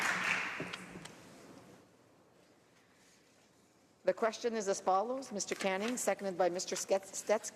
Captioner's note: cheering and applause